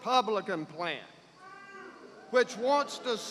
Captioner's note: boos